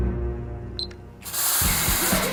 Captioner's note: beep